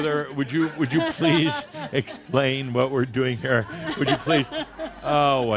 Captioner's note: more chuckles